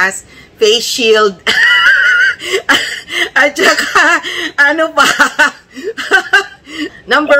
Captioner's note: laughter